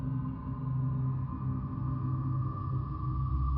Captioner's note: none